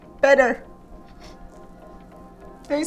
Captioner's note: sniffles